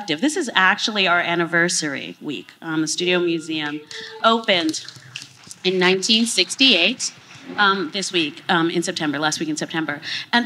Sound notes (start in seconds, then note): 4.4 applause